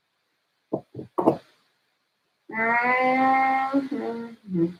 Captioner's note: hands tapping on table